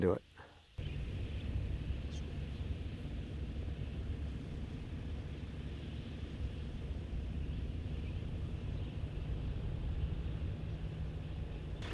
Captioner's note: bird sounds